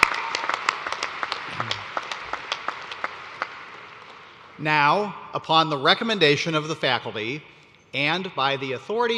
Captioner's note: cheers and applause